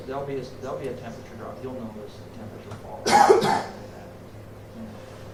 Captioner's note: coughing